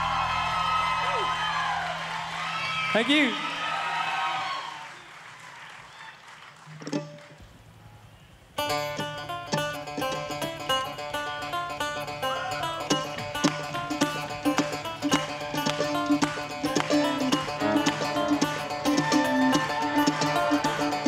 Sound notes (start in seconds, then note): 0.0 audience cheering and applauding; 8.8 upbeat folk music; 12.6 crowd cheering